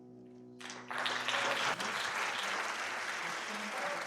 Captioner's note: applause